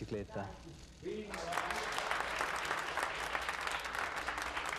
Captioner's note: applause